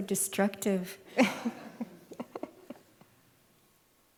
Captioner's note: laughs